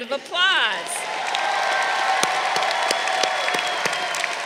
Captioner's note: crowd cheering